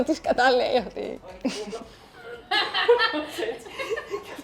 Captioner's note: laughs